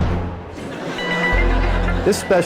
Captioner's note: chuckling from audience